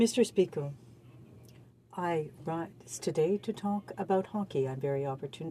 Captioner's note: speaking French